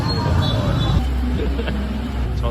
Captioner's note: we laugh at the food that came out